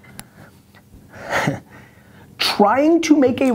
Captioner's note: laughs